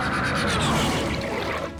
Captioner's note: toilet flush